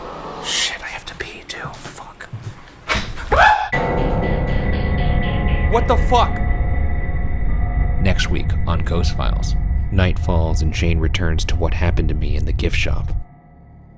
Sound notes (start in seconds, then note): 2.7 clattering; 3.3 screams; 4.3 dramatic music